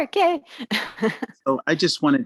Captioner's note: laughs